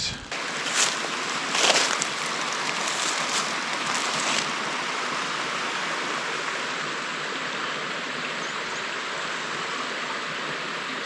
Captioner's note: water splashing